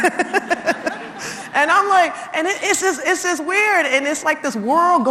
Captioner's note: laugh